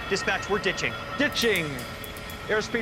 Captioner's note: beeping